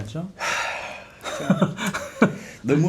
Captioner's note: sigh